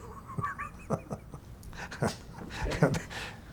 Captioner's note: chuckling